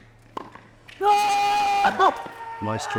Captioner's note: shouts